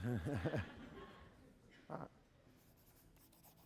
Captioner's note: chuckles